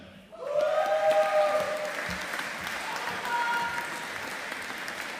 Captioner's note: audience applauding